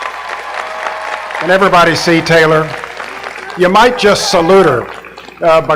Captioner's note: applause